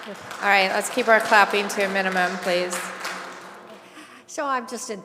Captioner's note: applause